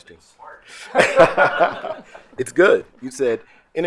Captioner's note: group laughing